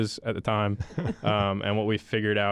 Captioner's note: hosts chuckle